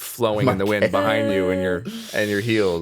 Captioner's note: chuckling